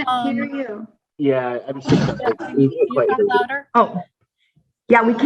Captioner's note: laughs